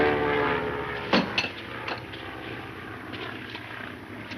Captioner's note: metal clangs